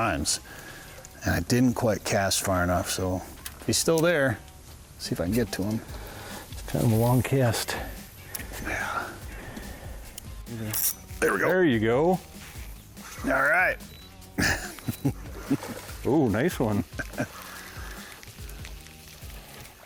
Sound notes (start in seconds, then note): 14.3 laughs